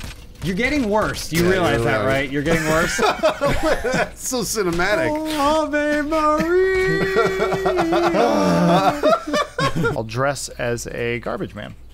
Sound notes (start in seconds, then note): 2.4 laughing; 5.6 sings a beautiful rendition; 9.2 laughing